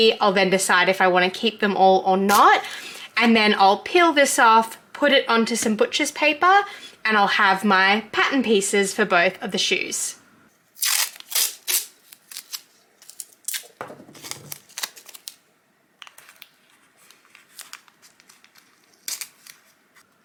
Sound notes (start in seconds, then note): 10.8 sticky tape tears; 16.4 sticky noises